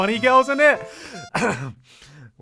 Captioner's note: clears throat awkwardly